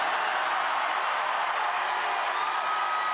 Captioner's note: cheering